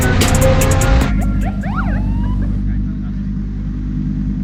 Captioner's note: police siren